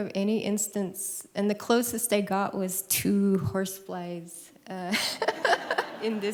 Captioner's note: laughs